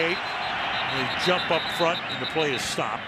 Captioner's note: whistle